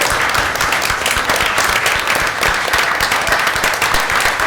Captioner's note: applause